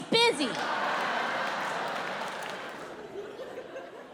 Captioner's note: audience laughs